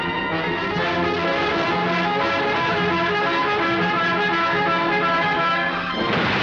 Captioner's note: bus Horn